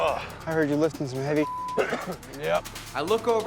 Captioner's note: beep